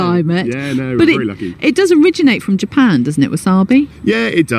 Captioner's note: laughs